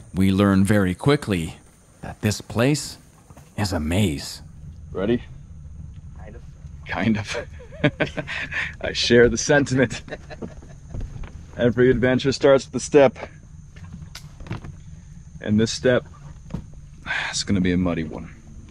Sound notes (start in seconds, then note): 7.1 laughs